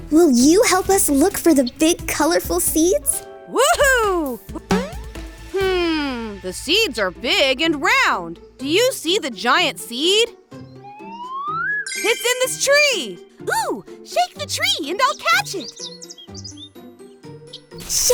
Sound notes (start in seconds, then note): 4.6 boing; 11.0 magical sounds